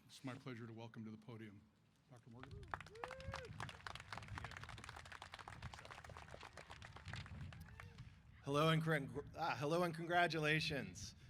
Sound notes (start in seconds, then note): 2.2 applause